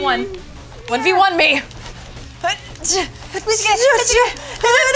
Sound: grunts and gibberish

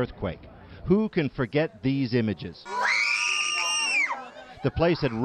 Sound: child wails in agony

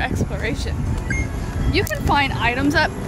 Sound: beep

